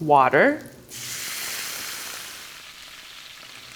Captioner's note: sizzling